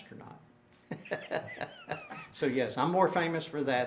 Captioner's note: laughing